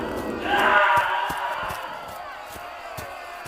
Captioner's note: screams